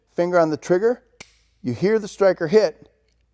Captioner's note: gun clicks